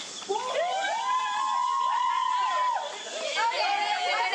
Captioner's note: team cheers